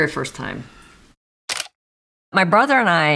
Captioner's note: camera shutter clicking